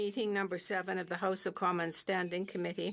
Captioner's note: speaking French